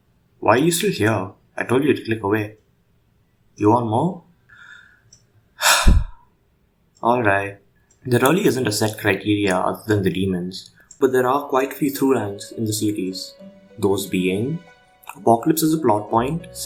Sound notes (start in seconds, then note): 5.6 sigh